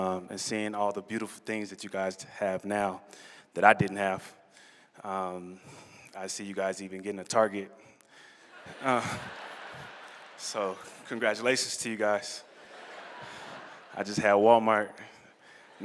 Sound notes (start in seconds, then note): 8.5 laughter